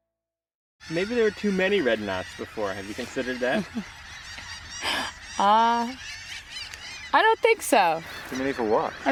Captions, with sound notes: - Maybe there were too many red knots before. Have you considered that? [bird sounds] - I don't think so. Too many For what?